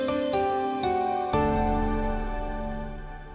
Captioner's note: ethereal chime swells